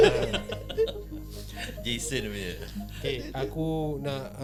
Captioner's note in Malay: ketawa